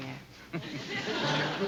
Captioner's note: Don chuckles